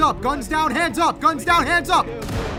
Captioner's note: fires gun